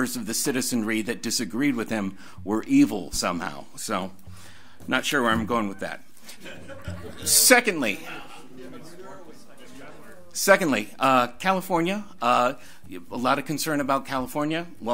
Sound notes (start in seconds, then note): 6.2 audience laughs; 6.4 overlapping chattering